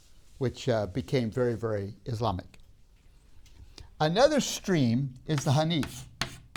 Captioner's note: chalk sounds